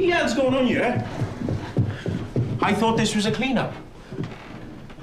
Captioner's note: footsteps approaching